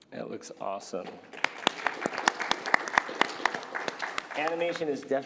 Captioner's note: applause